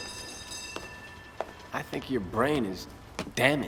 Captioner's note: bell rings